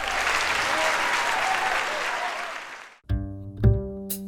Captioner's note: crowd cheers